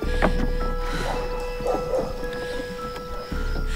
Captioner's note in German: Entferntes Hundebellen